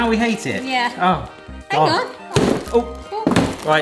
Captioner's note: drawer thudding